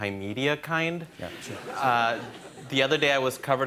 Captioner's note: laughter